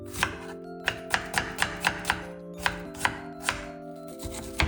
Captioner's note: chop chop chop